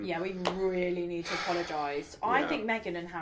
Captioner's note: sighs